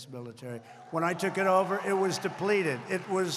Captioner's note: applause